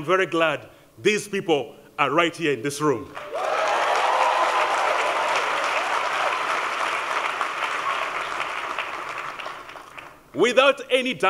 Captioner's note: applause